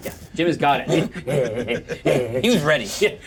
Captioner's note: growls